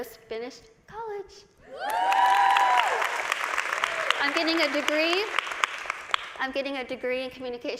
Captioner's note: vỗ tay